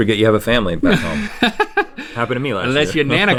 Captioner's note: Link laughing